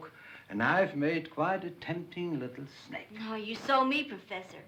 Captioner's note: none